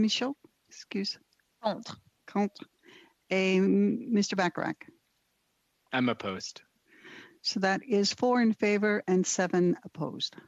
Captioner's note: speaking French